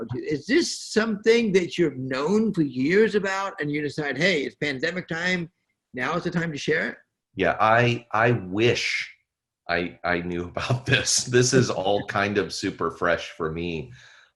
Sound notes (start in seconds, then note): 10.6 chuckles